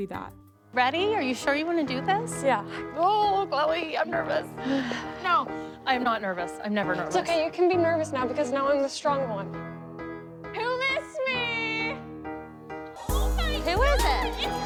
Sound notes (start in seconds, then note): 4.6 sighs